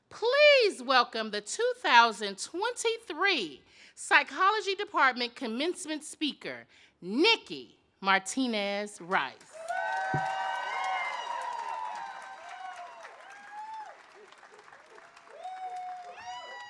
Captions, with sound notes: Please welcome the 2023 Psychology Department commencement speaker, Nikki-Martinez Rice. (audience cheers)